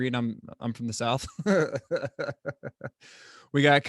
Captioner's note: chuckles